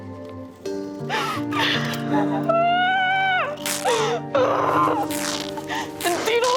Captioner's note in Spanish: Sollozos; Gritos entre dientes